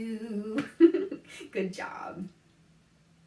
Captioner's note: laughs